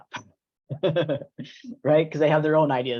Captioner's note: laughs